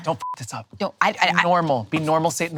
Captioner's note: beep